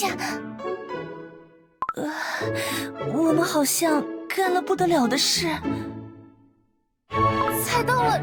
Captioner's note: gasp